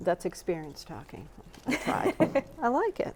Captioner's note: chuckles